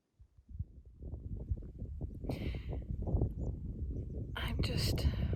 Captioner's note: wind blowing